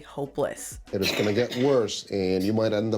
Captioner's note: coughs